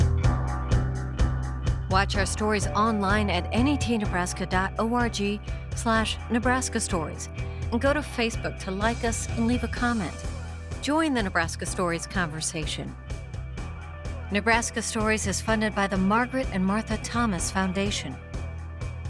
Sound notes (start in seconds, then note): 0.4 beat music; 2.2 voiceover